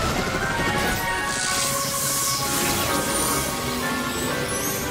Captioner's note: zapping